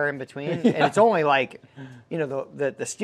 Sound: laughing

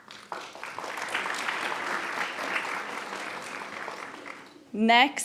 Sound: attendees applauding

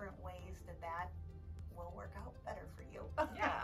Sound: laughs

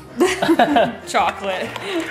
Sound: laughing

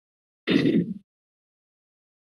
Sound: clears throat

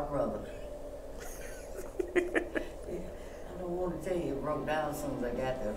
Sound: laughs

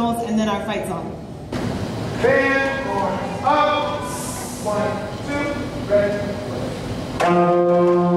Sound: band hisses

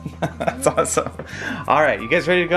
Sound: laughs

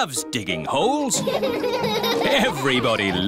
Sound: all laughing

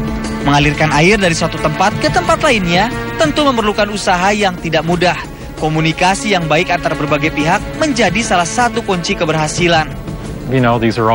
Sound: non-english speech

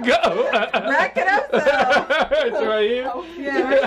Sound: laughing

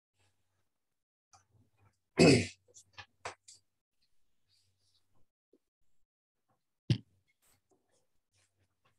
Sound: clears throat

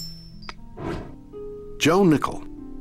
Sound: coin clinking

